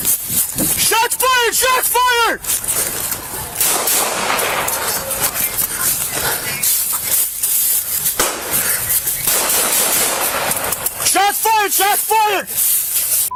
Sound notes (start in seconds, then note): 3.6 fires gun; 8.1 overlapping gunshots fired